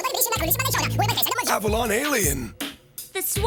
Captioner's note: normal voice